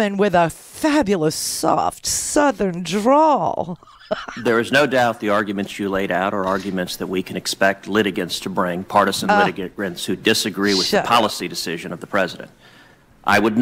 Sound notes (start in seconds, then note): 3.6 laughs